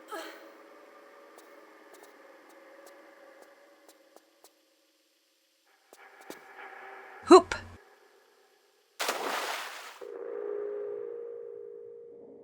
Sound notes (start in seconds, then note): 9.0 splash